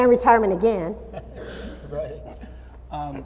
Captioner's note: laughter